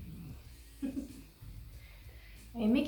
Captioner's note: chuckles